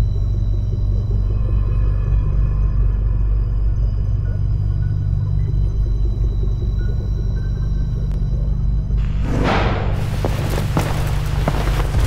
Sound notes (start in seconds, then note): 9.3 door slam